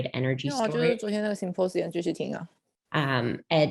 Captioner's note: non-english speech